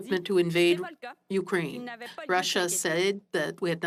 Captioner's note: speaking French